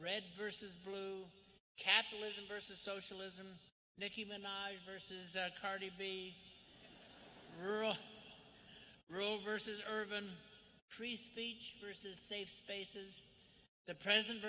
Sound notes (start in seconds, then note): 6.7 laughter